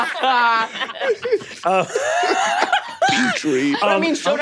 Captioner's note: everyone laughing